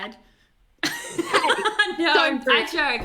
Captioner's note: laughs